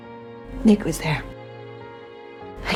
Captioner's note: voiceover